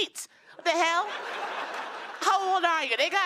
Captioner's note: laughter